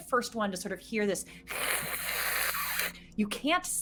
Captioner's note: hissing